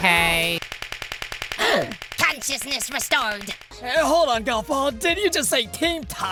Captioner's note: gasps